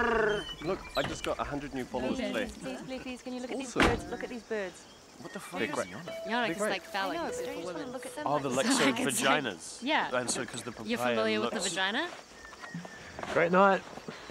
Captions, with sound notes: Look I just got a hundred new followers today Please please can you look at these birds look at these birds (indistinct chatters) Great night.